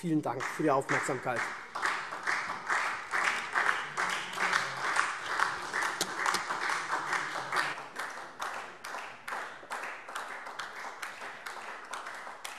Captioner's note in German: Beifall SPD